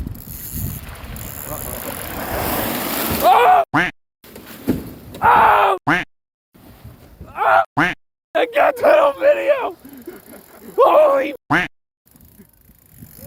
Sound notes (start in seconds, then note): 0.1 water splashing; 0.1 reel whirring; 3.7 duck quacking; 4.3 shark thudding; 7.8 duck quacking; 9.6 fishermen laughing; 11.5 duck quacking